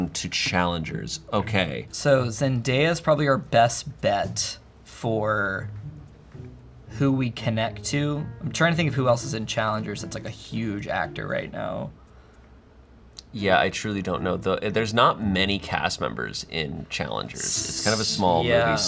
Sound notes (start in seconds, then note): none